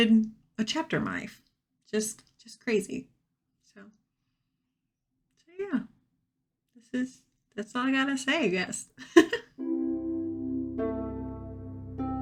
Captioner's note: giggles softly